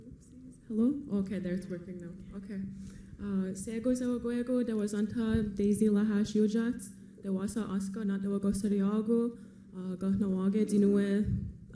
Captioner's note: foreign language